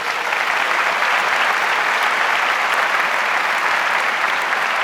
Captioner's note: audience applauds